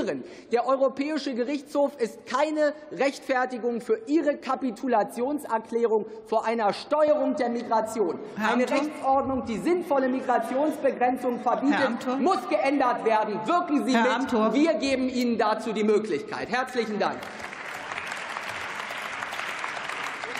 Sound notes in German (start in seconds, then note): 17.0 Beifall